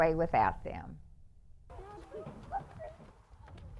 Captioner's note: group chatter